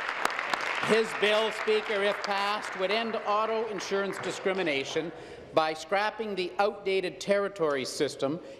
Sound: applause

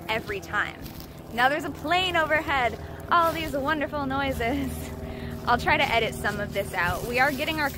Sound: laughing

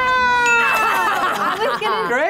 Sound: laughs

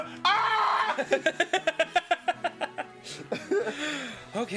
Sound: Danny laughing

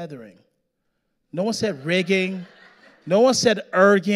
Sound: audience laughing

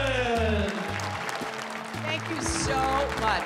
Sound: cheers and applause

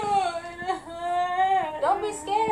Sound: Toy Chica crying

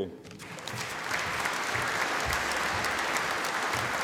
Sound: audience applauding

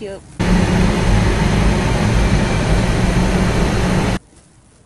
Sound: Static

